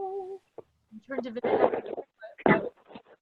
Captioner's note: static crackling